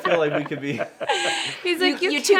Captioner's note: laughing